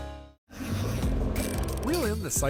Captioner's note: boat engine roaring